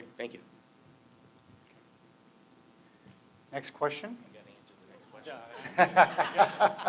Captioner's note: laughter